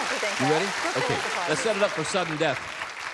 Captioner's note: chatter